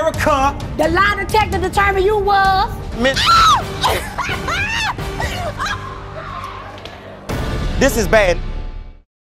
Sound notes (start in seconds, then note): 3.1 screaming and laughing